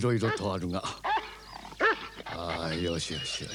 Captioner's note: dog barking